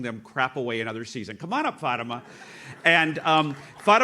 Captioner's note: audience laughs